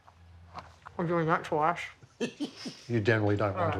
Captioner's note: laughs